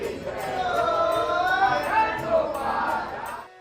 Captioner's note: chants